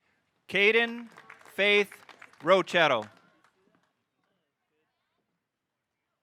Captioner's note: audience applauding